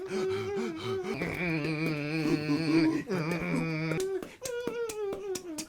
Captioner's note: Mr Big air guitars while Phil beatboxes